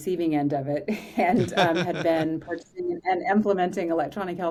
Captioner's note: laughing